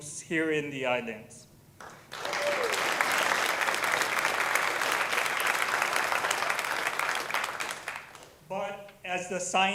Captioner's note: applause